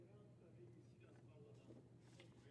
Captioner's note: speaking French